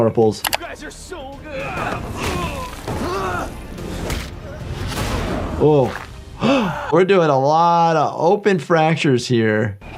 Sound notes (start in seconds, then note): 0.4 screen clicking; 1.9 body thudding; 3.2 character grunting; 4.8 body thudding; 6.3 Jordan gasping